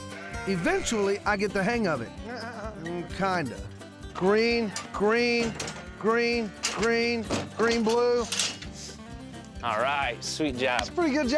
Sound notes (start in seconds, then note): 8.1 sucks teeth